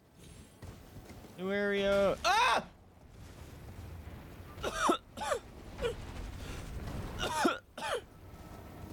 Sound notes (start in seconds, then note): 4.5 fear coughs